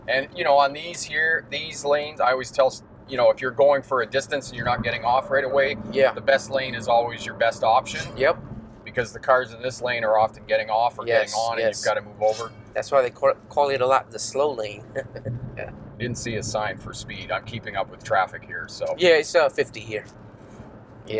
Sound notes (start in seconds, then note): 14.8 laughs